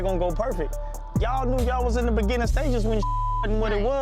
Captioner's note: beeps